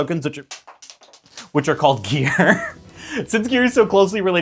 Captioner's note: laughs